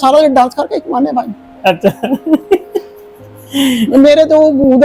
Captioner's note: laughter